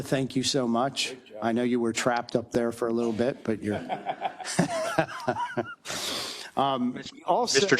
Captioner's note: laugh